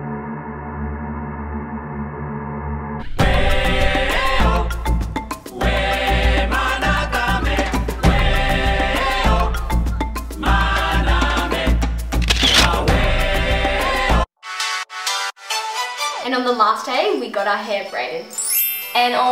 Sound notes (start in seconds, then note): 3.0 upbeat African music; 12.2 camera click; 18.3 chime